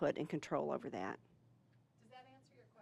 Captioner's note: none